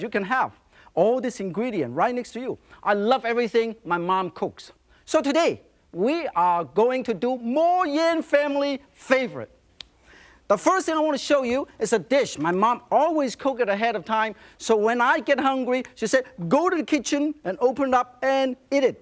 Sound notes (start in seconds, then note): none